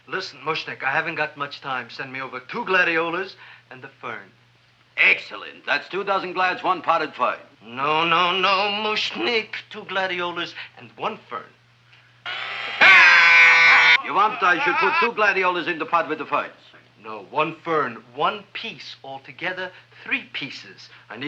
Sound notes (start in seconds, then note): 12.2 drill whirring; 12.3 man screaming